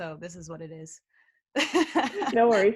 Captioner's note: laughter